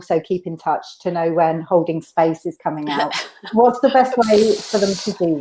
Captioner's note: laughs